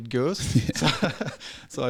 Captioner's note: laughing